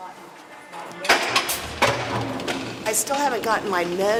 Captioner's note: loud clanking